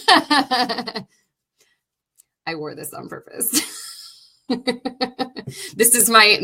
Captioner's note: laughing; laughing